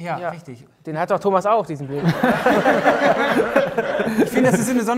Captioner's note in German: Lachen